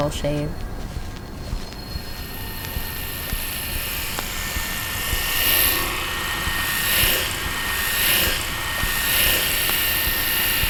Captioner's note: razor sounds